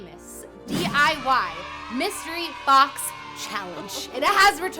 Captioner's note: children cheering